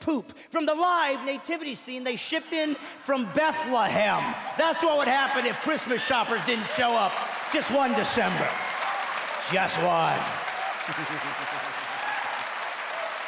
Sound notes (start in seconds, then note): 8.7 cheering; 12.8 clapping